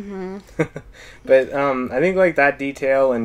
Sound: both Laugh

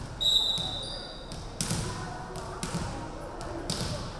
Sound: referee whistling

